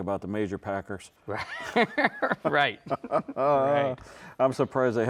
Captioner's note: both laughing